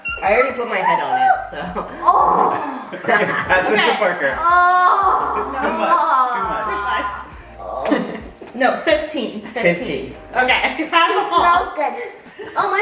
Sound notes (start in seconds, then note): 1.0 groans